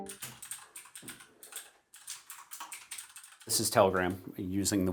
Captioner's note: computer keys clicking